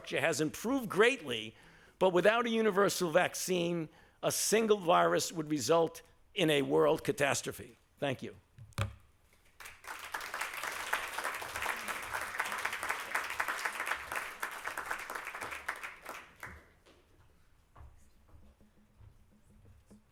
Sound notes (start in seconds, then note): 9.4 applause